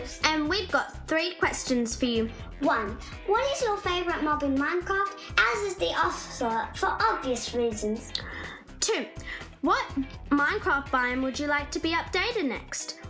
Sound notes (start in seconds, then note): none